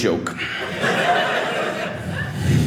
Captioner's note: audience laughing